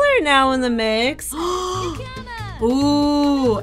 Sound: gasps

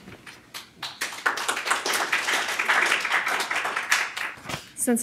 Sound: applause

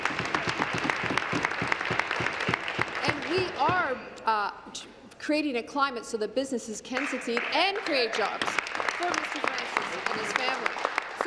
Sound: applause

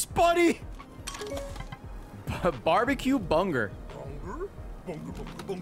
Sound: laughs

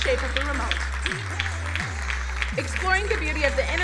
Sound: crowd applauding

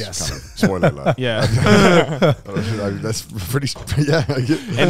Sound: all laughing

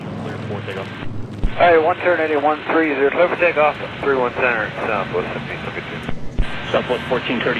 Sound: air traffic chatter

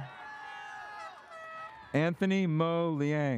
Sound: audience cheers; airhorn sounds

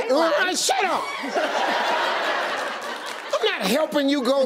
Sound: audience laughing

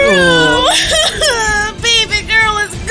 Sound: crying

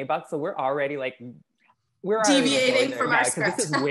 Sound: laugh

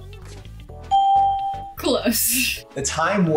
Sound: ding

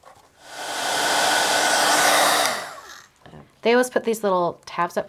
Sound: machine whirring

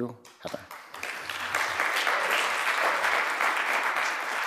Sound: applause

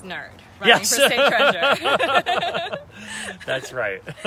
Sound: light-hearted laughter

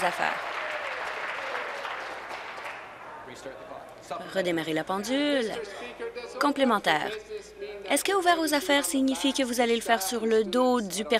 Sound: some Applause

